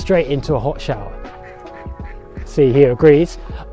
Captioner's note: duck Quacking